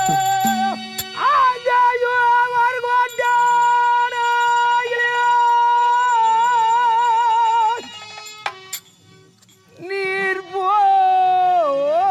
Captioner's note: Dharmaraj breaks down and cries unable to speak